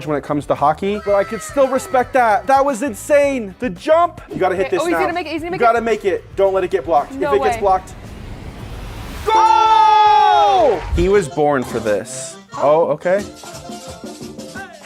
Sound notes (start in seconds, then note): 9.2 group cheering; 13.3 upbeat music